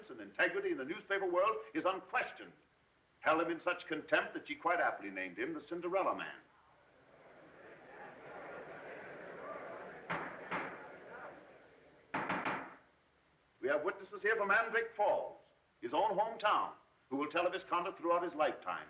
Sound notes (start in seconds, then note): 6.9 murmuring